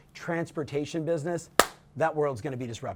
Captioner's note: claps